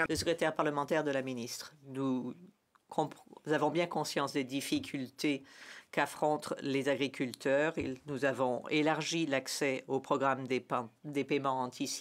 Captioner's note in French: voix de l'interprète